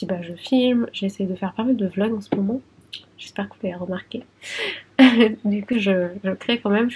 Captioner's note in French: rires